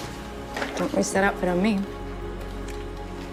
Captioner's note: voiceover